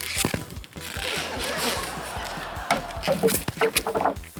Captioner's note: laughter